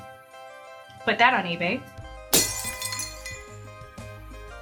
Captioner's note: crashing